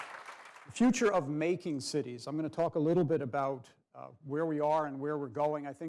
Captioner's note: applause